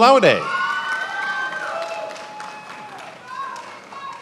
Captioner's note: attendees applauding